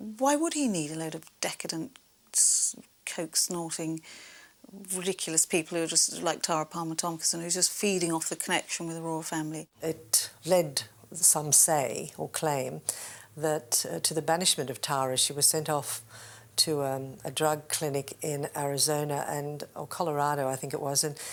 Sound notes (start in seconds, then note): none